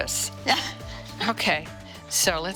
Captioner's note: laughing